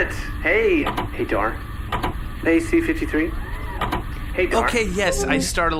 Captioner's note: transmission-end noise